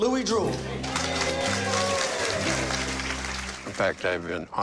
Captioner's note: applause